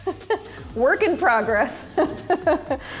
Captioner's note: laughs